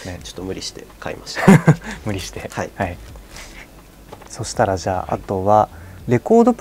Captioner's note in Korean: 웃음